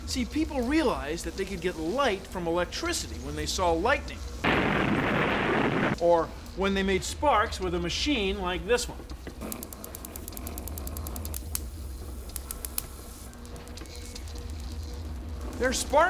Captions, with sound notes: SEE, PEOPLE REALIZED THAT THEY COULD GET LIGHT FROM ELECTRICITY WHEN THEY SAW LIGHTENING, [ THUNDER CRASHES ] OR WHEN THEY MADE SPARKS WITH A MACHINE LIKE THIS ONE. THERE ARE SPARKS ALL RIGHT,